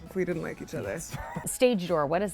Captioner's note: laughing